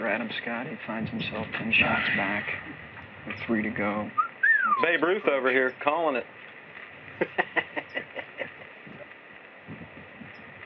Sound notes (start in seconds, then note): 4.1 whistles; 7.1 laughs